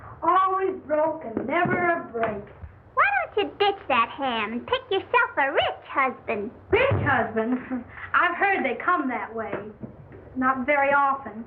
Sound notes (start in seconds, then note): 7.6 guffaws